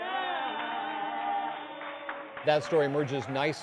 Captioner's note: applause